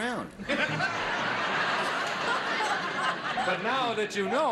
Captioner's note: audience laughs